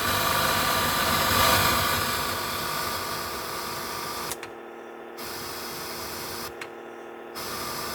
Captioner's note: white noise: the radio searches for stations